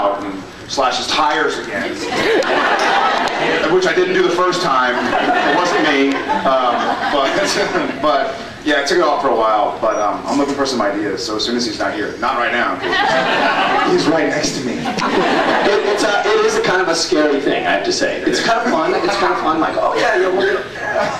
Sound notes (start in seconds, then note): 2.0 laughs; 4.9 laughs; 12.8 scattered laughs; 14.8 laughs; 18.3 laughs